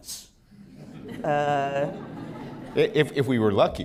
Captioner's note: laughter